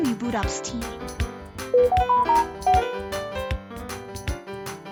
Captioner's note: Samsung notification sound